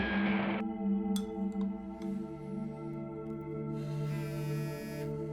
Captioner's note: bullets whooshing; spoon clanging; phone buzzing